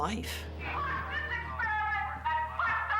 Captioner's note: yelling